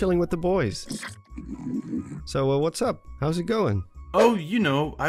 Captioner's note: Bokoblin Noises